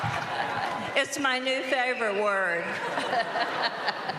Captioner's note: laughing